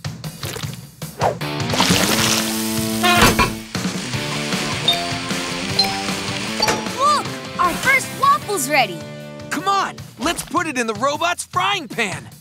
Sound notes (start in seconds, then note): none